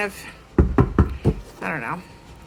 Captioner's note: door knocks